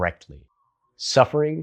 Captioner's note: beat